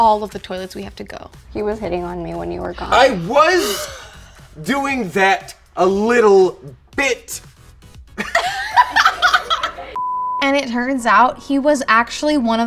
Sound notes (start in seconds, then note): 2.8 scoffs; 8.2 laughing